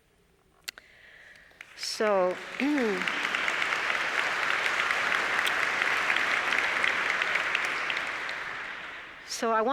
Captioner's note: applause